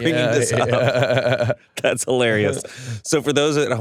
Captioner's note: laughs